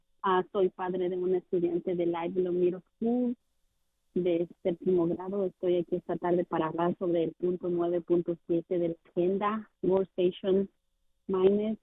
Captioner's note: speaking spanish